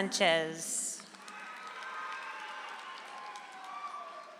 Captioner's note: audience applauds